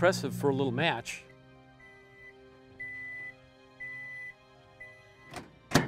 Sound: microwave beeping

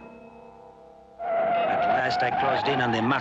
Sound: tires screeching

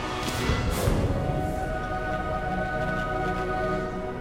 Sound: scream

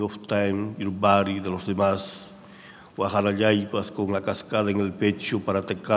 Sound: speaking in a foreign language

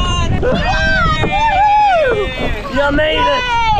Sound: people cheering

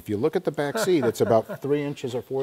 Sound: laughing

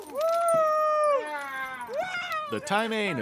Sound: fish splashing

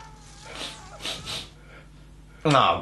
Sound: sniff

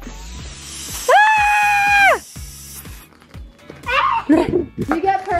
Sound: screaming

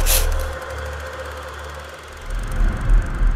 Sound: sandpaper scrapes; film projector clicking

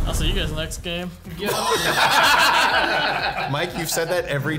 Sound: everyone laughing

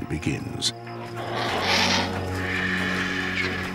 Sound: birds screeching

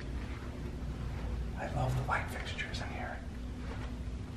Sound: whispers

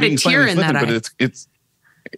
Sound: laughing

